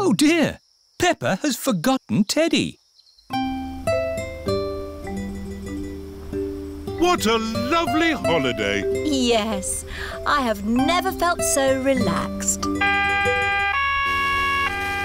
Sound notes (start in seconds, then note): 12.7 police siren